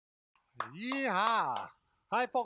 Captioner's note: clapping